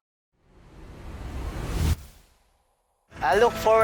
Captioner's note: air whooshes